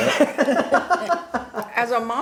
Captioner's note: laughs